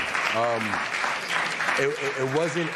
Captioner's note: applause